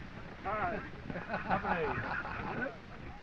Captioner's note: laughing